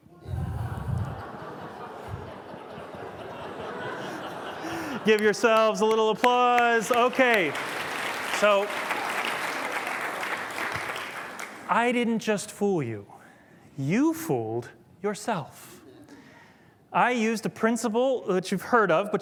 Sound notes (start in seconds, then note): 0.6 laughter; 6.5 applause